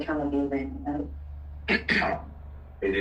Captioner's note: cough